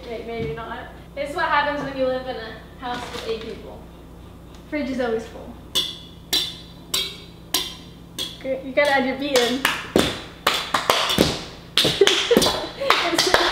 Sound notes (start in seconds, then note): 5.6 steady beat with utensil; 10.4 clapping and banging the table